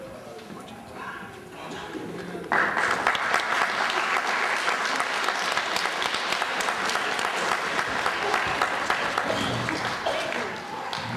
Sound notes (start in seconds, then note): 2.5 applause